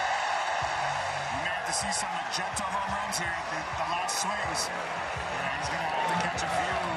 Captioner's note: cheering